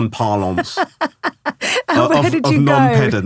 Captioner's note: laughing